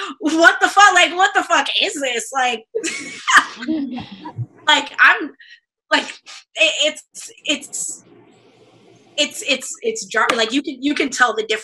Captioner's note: laughs